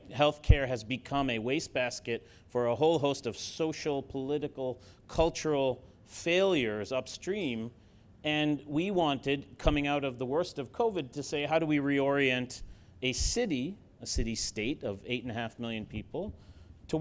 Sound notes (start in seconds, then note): none